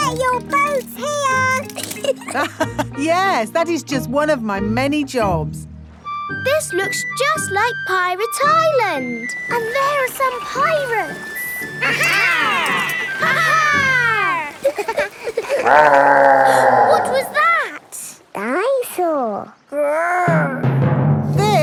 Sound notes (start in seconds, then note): 1.6 laughs; 15.2 laughing; 16.2 growling; 17.0 gasps